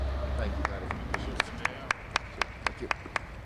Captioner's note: applause